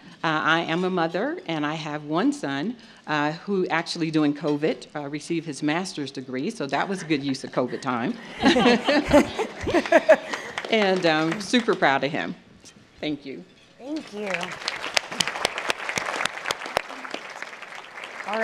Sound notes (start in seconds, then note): 8.6 laughter; 14.0 applause